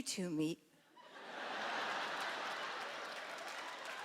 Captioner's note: laughter; cheering